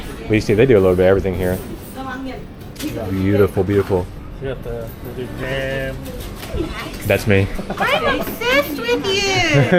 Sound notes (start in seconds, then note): 5.0 speaking Vietnamese